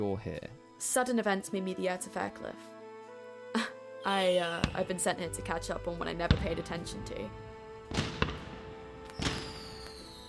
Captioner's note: sparklights exploding